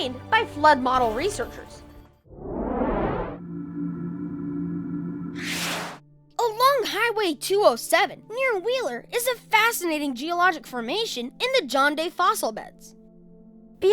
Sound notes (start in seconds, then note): 2.3 whoosh; 3.2 hum; 5.0 zap